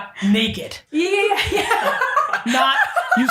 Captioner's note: laughing